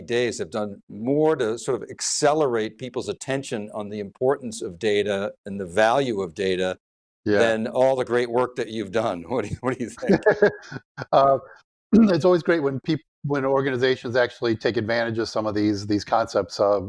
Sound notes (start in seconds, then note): 9.4 laughing